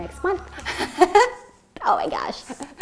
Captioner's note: laughing